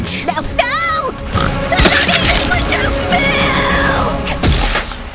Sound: death sounds

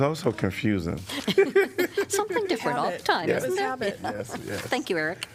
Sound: laughter

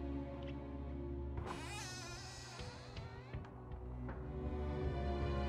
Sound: door creaks open

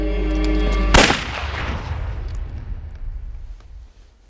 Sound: suspenseful music; gunshot booms

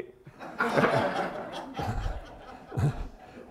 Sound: laughter

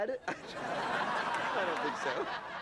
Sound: laughs

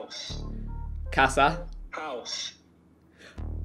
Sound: foreign language

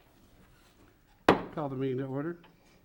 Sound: gavel bangs

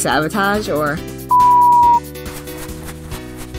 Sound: unsure beep

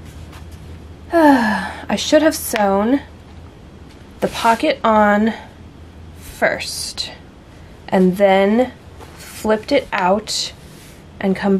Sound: sigh

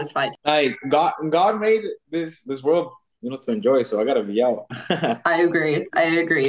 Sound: laughs

